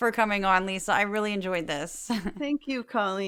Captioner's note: laugh